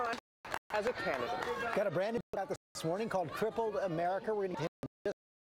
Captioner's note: chrs and applause